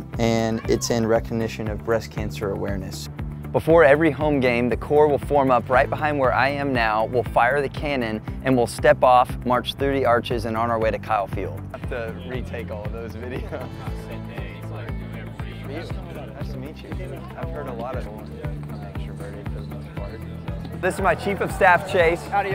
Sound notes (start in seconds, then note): 14.4 crowd talking